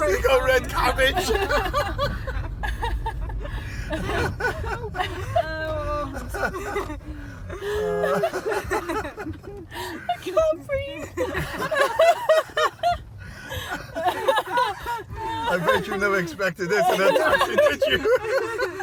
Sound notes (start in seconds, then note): 1.1 hysterical laughter; 2.4 laughter dies down; 7.5 laughter